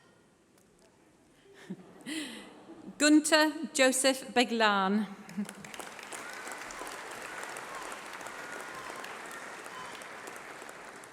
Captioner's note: applause